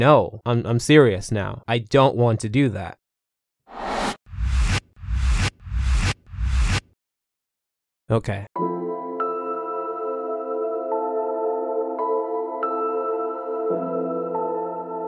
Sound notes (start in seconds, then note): 3.8 ominous swiping; 8.6 gentle music